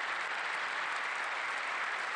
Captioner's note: applause